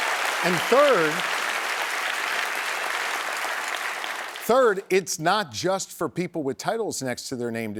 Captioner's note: applause